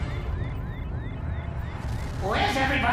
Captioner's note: radar sounding